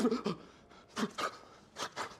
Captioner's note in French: sursaut